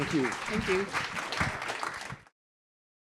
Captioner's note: applause